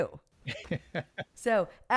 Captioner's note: laughs